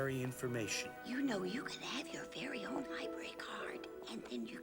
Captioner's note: whispering